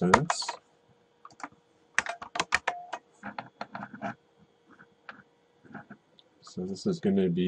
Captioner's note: typing